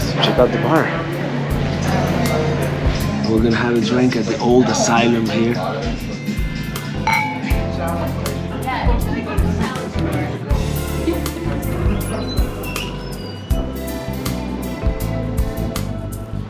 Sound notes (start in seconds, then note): 7.0 glasses clinking